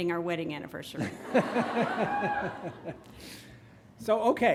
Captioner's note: laughs